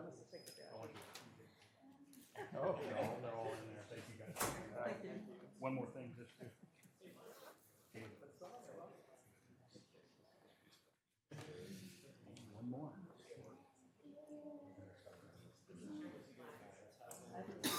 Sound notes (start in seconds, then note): 4.3 background chatter